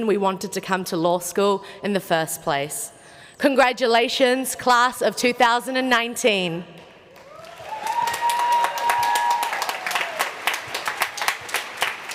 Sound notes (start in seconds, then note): 7.1 applause